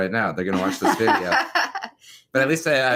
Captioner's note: laughs